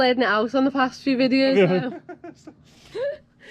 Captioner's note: laughs